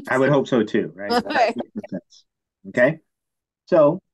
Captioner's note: laughing